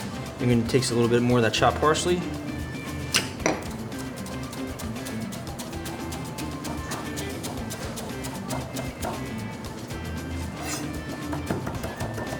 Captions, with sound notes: We're gonna takes a little bit more of that chopped parsley. (knife chopping) (upbeat music)